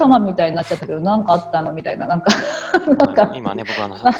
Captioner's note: laugh